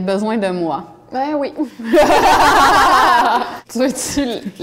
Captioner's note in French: rires